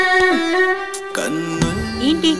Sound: sighs

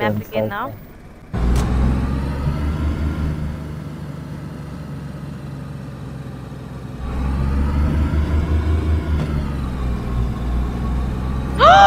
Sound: car Sounds

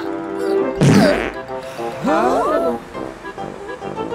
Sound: passes gas; gasps

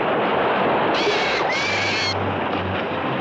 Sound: bird shrieking

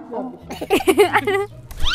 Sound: chuckles

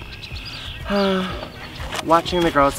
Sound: sighs

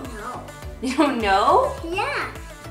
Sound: laughing

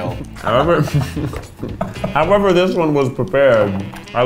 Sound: mumbles with mouth full

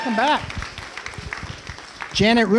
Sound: applausing

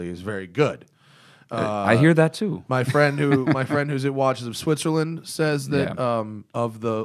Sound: laughs

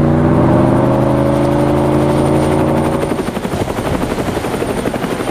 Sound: helicopter makes some noise

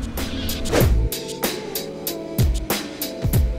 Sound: whoosh; upbeat urban music

